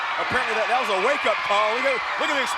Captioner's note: fans screaming